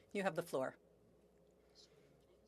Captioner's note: speaking French